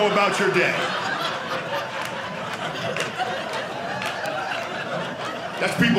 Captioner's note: audience laughing